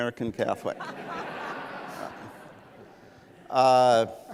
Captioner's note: laughs